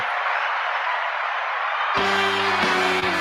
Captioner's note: applause